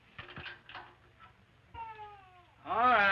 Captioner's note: gate rattles; baby wailing